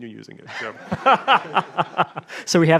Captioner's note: audience and panel laughing